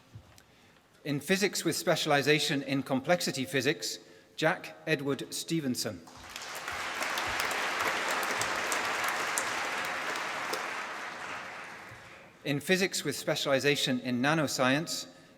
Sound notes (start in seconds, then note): 6.0 applause